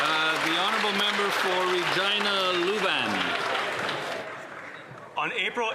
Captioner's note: some Applause